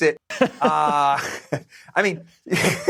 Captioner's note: laughter